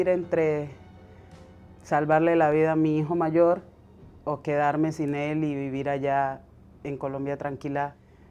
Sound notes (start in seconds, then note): 1.7 speaking Spanish